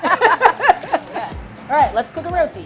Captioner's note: both laughing